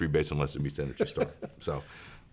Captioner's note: laughs